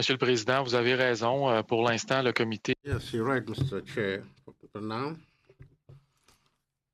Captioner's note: speaking in French